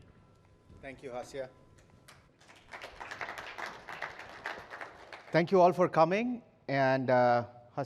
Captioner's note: applause